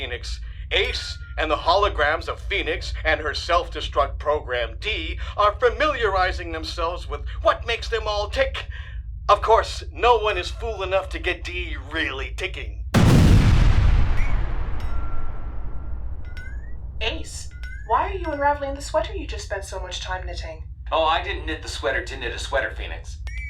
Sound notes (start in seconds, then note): 12.9 explosion; 13.0 ship sounds